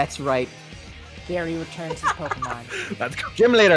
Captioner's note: someone laughs